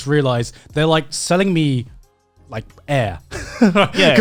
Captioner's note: laughs